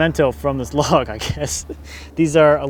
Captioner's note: laughs